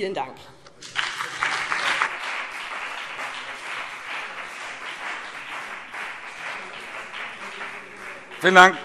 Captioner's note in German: Beifall BÜNDNIS 90/DIE GRÜNEN und vereinzelt CDU